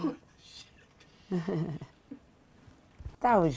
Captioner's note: Regina laughing